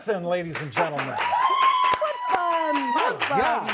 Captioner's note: applause